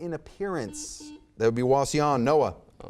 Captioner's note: buzzer beeps